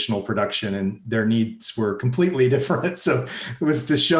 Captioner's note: laughs